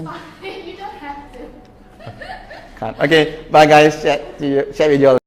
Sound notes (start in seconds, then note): 1.9 laughs